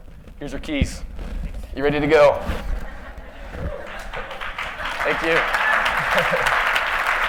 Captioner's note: laughter; applause